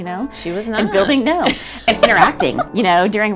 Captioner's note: laughs